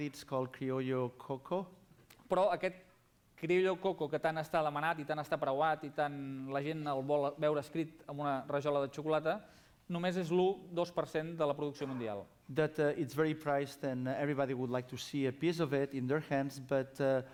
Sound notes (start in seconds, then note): 5.9 non-english speech